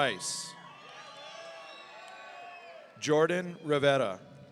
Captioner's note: audience cheering